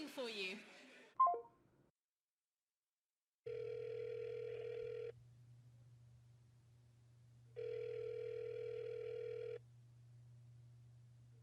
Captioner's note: phone hangs up; phone rings, isn’t picked up